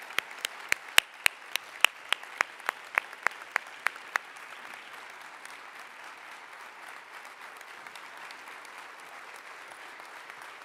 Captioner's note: applause